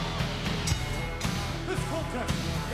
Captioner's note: dramatic rock music; upbeat rock music; bell rings